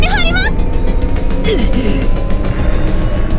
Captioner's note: pained groan